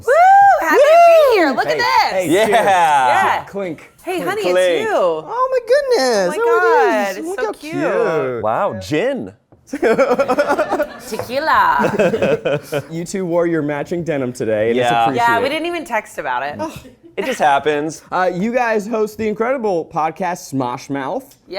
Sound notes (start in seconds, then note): 9.7 laughs